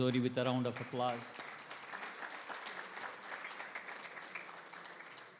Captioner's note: attendees applauding